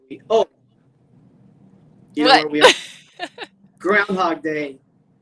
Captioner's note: laughs